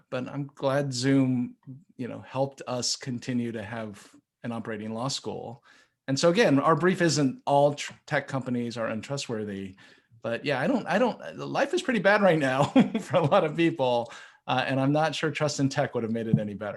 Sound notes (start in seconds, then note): 12.3 laughs